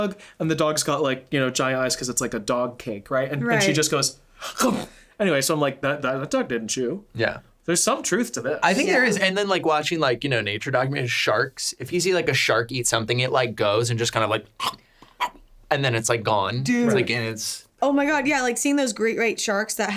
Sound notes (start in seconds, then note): 4.6 munching; 14.6 munching